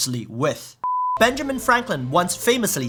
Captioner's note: beeping sound